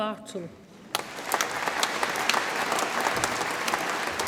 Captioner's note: audience applauds